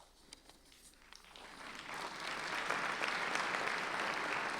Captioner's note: clapping